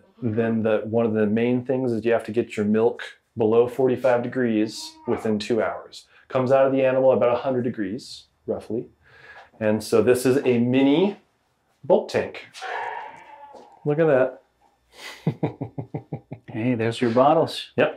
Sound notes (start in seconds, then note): 12.5 lid squeaks; 15.0 chuckles